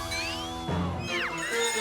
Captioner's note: bell rings, shriek